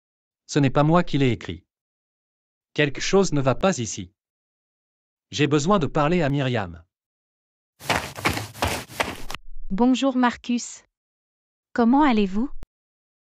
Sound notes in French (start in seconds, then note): 7.8 FX - Footsteps - On Multiple Dirt - Run